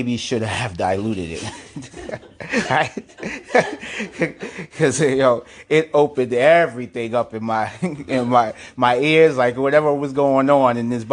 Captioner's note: still laughing